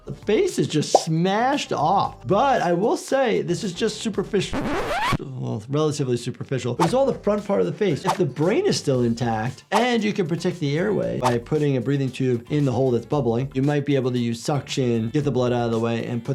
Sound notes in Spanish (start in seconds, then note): 4.4 rayado del disco